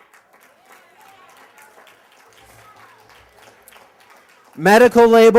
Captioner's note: cheers and applause